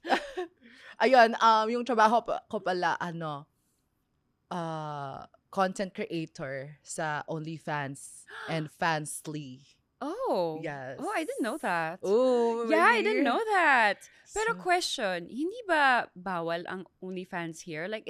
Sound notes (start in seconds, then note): 0.1 laughs; 7.9 gasps